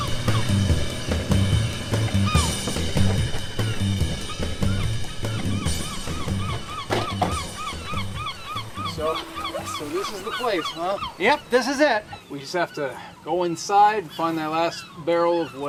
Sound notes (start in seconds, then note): 1.2 lively rock music; 2.9 gulls squawking; 6.9 car doors closing; 7.1 gulls squawking; 10.7 gulls squawking